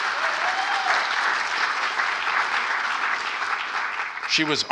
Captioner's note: applause